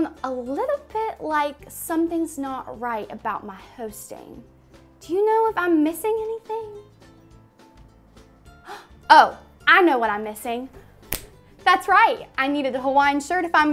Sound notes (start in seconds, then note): 7.5 upbeat music; 8.6 gasps